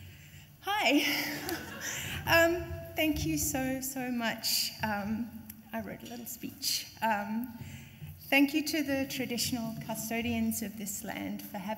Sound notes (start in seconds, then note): 1.3 laughs; 1.3 audience laughs